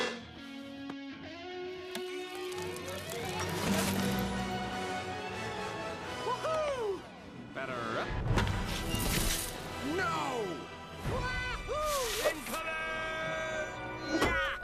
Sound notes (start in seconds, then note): none